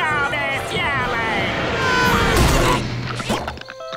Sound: screaming

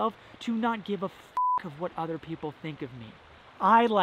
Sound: beep

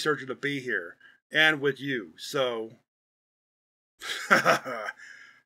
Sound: sighs

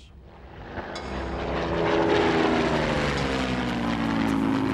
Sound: planes zooming

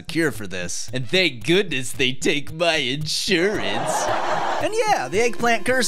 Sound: sitcom laugh

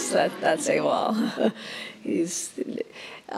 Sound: laughs

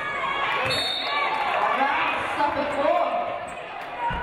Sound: referee blows whistle

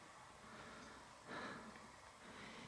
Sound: breathing out; inhaling

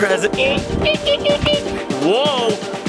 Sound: making beeping noises

